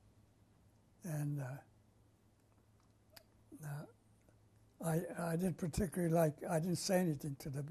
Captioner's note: pauses for 3 seconds